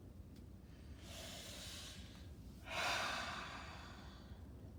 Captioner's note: breathing deeply